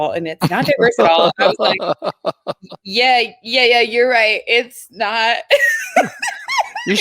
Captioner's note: laughs